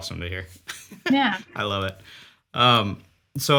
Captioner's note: chuckles